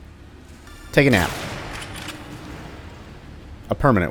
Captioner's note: bam